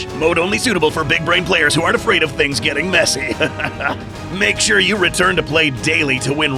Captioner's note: disclaimer voice